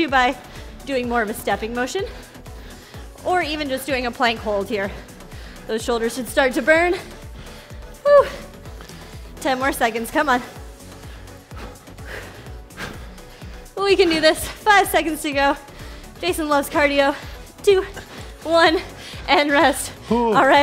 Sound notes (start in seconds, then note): 6.8 breathes heavily; 10.9 upbeat music